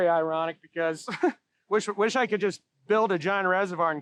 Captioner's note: chuckles